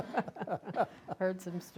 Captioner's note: laughter